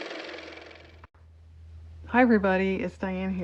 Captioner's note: car motor